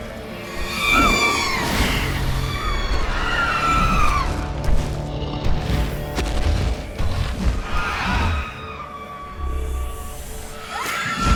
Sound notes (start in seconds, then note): 0.5 sirens screeching, calling; 4.4 heavy, thudding footsteps